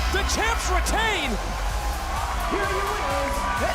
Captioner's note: bell rings